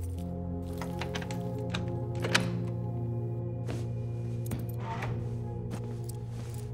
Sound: keys clinking; suspenseful music; door rattles

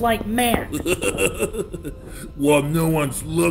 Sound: laughing

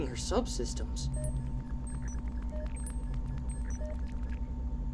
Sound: circuit trilling

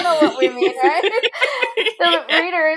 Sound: both laughing

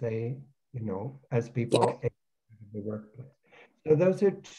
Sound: audio cuts

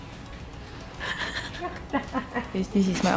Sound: laughter of judgment

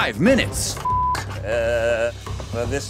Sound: beep

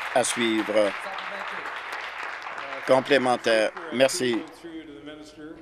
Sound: applause

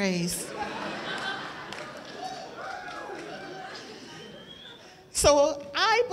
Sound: laughter

